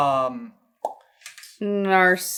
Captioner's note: mouth pop